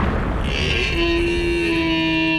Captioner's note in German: Elch-Schrei